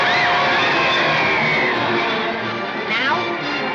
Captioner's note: whistle blows